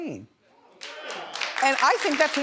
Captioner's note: audience applauds